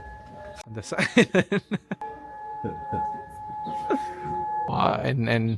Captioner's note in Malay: ketawa